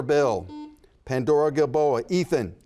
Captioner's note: buzzer buzzes